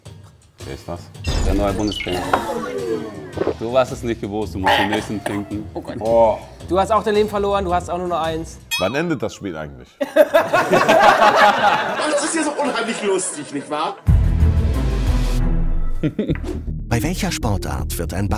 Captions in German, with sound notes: Der ist was? - Der neue Bundestrainer. Du hast es nicht gewusst, du musst den nächsten trinken. Du hast auch nur noch ein Leben. Wann endet das Spiel eigentlich? (Gelächter) Es ist unheimlich lustig, nicht wahr? (Spannungsvolle Musik)